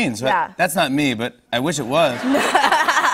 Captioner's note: laughter